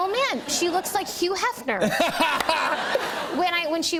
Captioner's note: laughter